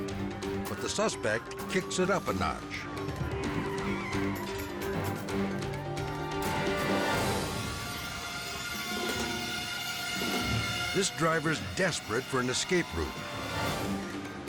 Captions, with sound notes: but the suspect kicks it up a notch. (tires screeching) (ominous music) This driver's desperate for an escape route,